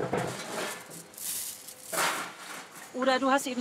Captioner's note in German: Rascheln